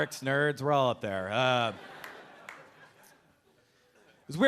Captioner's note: a few audience members laughing